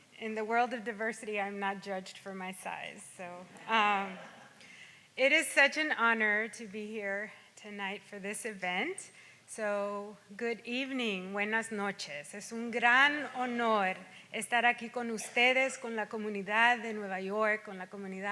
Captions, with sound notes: In the world of diversity I'm not judged for my size so. (audience laughs) It is such an honor to be here tonight for this event. So good evening (speaks in Spanish).